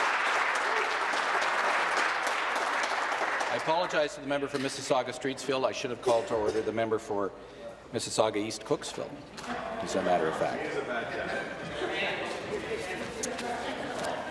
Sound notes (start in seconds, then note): 3.5 applause